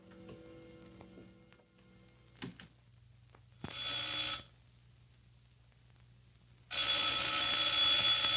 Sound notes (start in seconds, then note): 3.7 telephone ringing